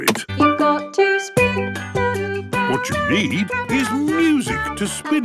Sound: radio

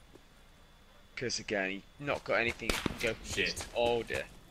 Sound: gunfire

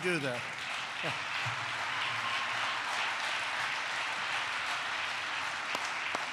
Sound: applause

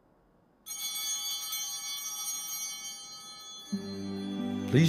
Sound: bell ringing

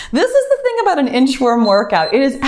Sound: timer beeps

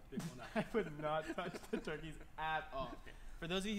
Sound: laughter

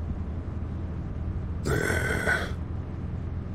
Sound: sigh

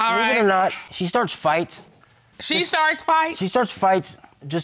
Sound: none

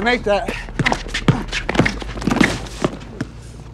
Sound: grunting

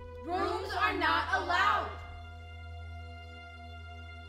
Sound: multiple voices; somber music

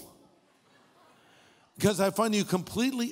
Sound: audience laughing

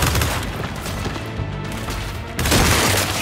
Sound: gunfire

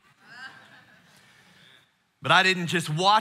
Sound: congregation laughing

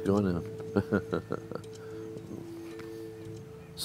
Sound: laughs

